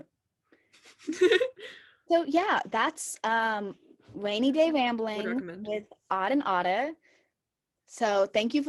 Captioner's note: chuckle